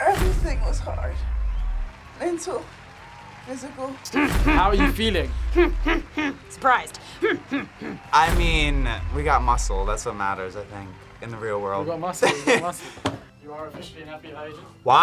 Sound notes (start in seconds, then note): 4.1 grunts